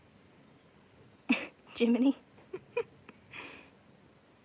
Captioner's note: laughing